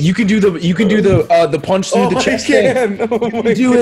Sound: laugh

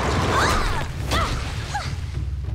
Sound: grunting

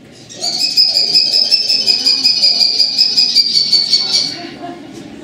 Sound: kestrel Call

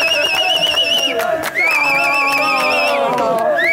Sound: whistling

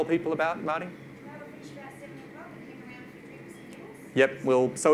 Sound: mumbles

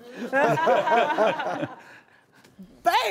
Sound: laughter

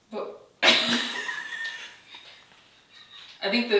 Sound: both laugh

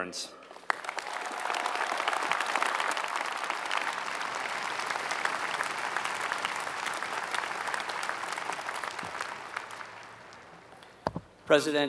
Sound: applause

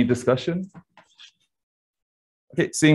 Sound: silence

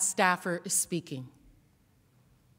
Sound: whispering

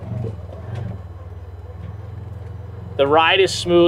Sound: engine humming

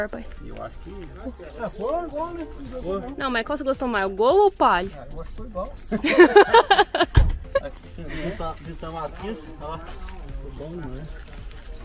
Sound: laughs

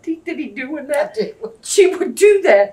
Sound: laughs

